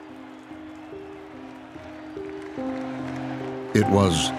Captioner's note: crowd cheering and applauding